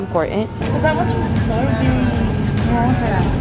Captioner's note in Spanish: zumbido del congelador